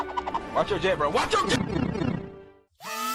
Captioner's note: mario64pipesound.mp3